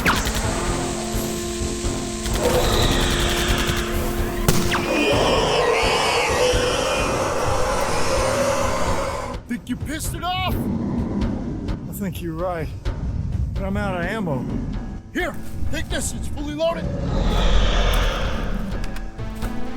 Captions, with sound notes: [Powder ignites, sizzles] [Gunfire] [Roar] [Angry screeching] I think you pissed it off! I think you're right. But I'm out of ammo. Here. Take this. It's fully loaded.